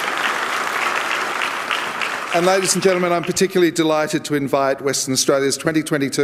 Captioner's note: applause